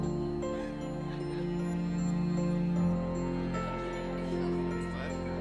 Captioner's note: laughter; chatter